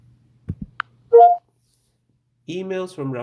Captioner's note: computer beeps